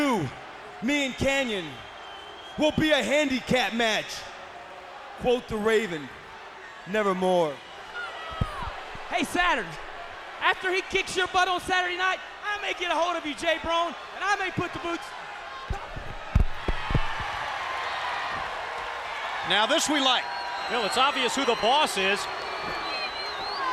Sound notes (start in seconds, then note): 16.2 applause